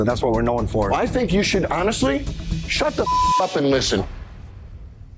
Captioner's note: beep